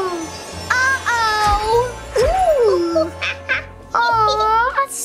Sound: monkey screeching

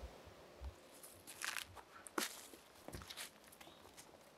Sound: footsteps

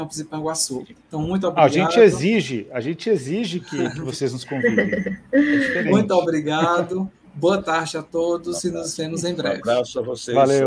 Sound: laughs

